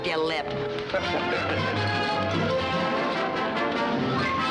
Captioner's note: laughing